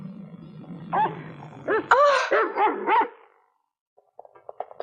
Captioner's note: Belle barking